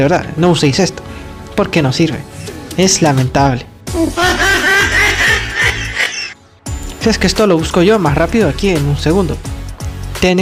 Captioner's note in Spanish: mujajajajajaja